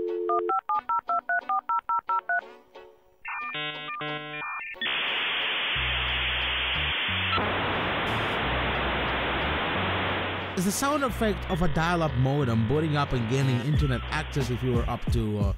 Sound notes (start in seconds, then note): 1.3 dial-up modem sound